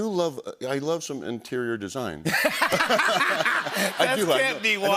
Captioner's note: laughter